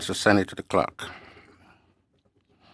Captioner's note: speaking French